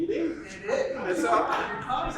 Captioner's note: laughter